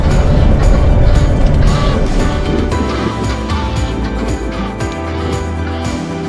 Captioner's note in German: Gänse schnattern